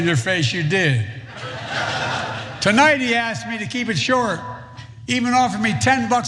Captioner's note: laugh